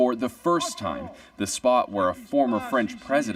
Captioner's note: speaking French